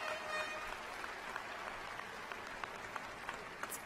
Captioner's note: cheers and applause